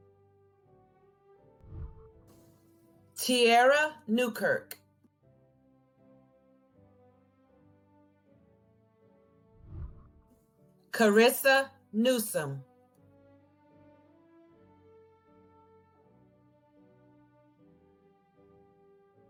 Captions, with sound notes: (whooshing) Tyaira Newkirk. (celebratory music) (whooshing) Kerissa Newsome. (celebratory music)